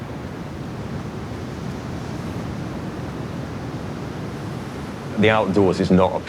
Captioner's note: wind across snow volume intensifies; distant snow crunching underfoot